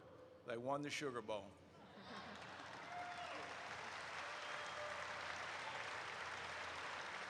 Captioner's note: audience cheers